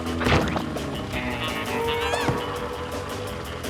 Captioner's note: spy music; Owen yelps; Lizbeth yelps